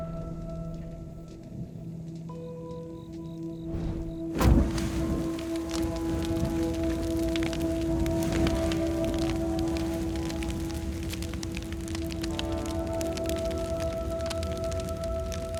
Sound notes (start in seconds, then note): 0.2 somber music; 5.2 fire roaring; 8.5 crickets chirping